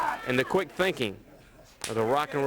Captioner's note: crowd chatter